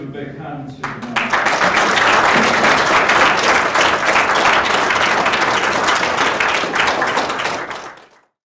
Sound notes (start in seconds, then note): 0.8 audience applauds